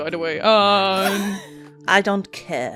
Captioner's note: laughter